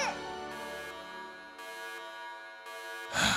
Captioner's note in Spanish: Alarmas eggman™